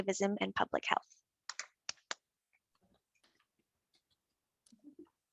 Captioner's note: clapping